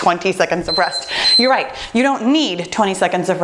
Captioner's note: timer beeping